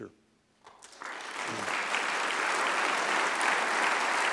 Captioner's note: applause